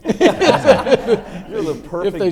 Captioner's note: everyone laughs